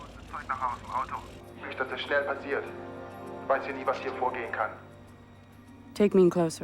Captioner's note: man Speaking German Over P.A